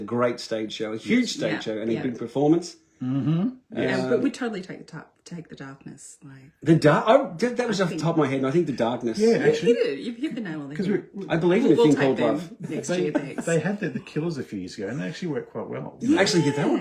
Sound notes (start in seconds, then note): 13.2 laughs